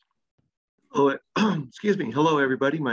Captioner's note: coughs